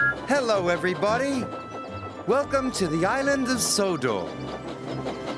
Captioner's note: whistles; bells ring; train puffing